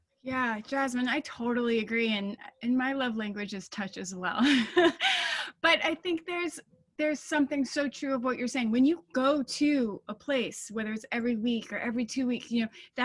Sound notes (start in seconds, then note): 4.4 laughing